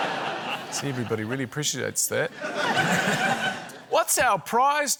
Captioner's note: laughter